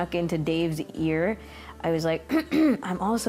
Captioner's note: clearing throat